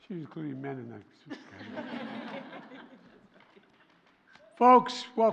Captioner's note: laughter